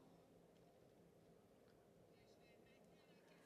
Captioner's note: speaking French